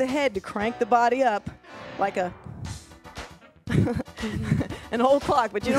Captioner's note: laughs